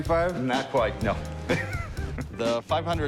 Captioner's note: laughs